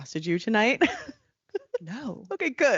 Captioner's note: laughing